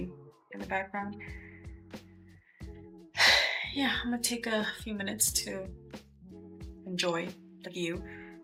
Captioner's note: sigh